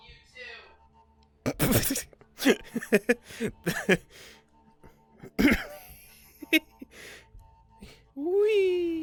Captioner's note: laughing